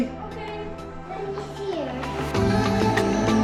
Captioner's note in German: murmelt; beschwingte Musik